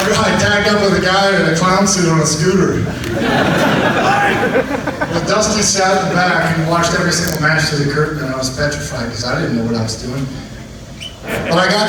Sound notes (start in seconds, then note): 2.4 audience laughs